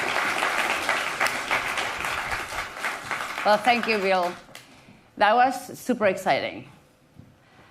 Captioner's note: applause